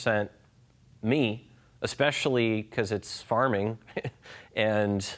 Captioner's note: chuckles